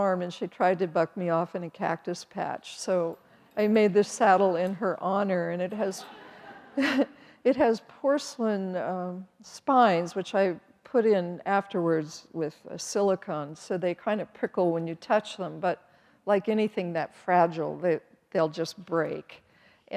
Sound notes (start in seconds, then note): 5.9 audience laughs